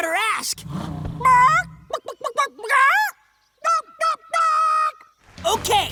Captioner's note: clucking